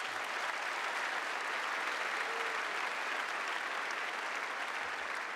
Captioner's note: cheers and applause